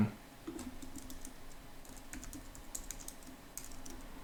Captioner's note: key board clicking